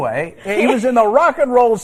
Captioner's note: laughter